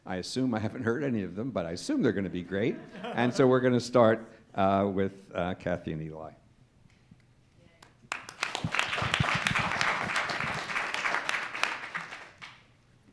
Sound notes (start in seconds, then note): 7.8 applause